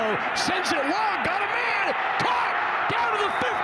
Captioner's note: fans cheer; referee blows whistle